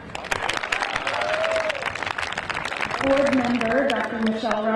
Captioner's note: crowd applauding; crowd cheering